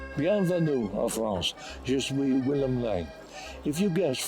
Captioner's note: french